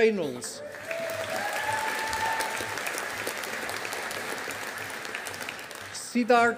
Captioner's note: audience applauding